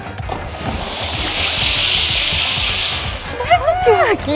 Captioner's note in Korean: 끙차